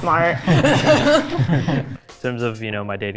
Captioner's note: all laughs